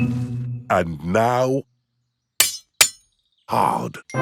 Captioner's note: shovel clanks